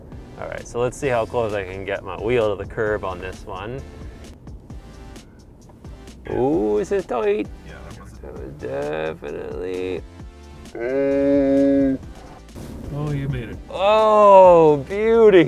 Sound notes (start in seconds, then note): 10.8 slow motion "Ooooooh"